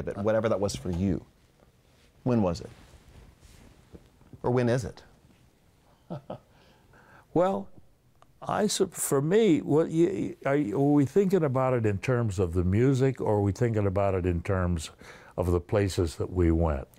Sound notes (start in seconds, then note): 6.0 laughs